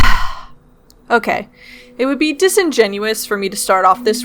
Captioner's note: sigh